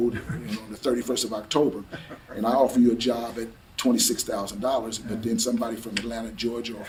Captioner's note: laughs